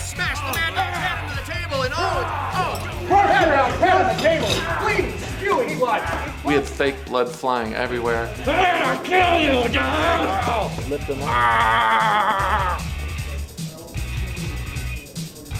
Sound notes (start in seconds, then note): 2.8 people shouting; 11.2 actor groaning